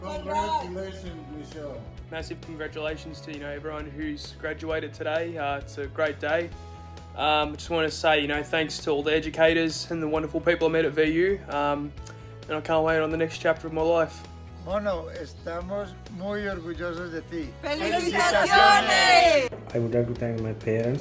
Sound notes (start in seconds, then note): 14.8 family speaking foreign language